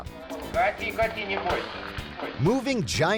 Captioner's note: man speaking in foreign language